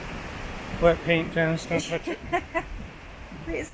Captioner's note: laughs